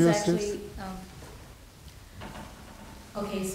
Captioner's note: woman's Voice